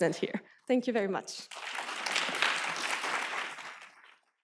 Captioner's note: applause